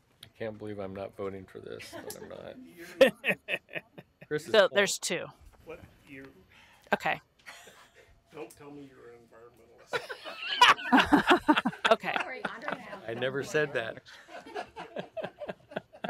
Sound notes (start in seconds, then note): 9.9 laughter